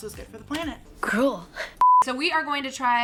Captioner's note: beep